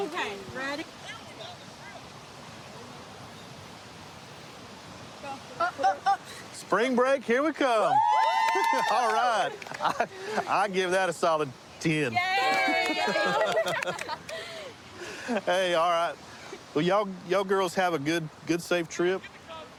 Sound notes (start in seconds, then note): 7.7 cheering